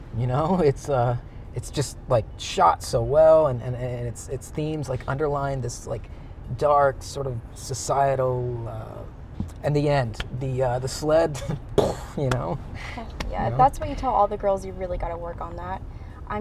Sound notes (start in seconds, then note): 11.7 mocks explosion